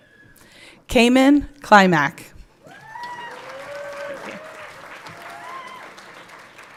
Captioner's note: everyone clapping